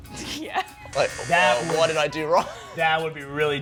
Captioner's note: buzz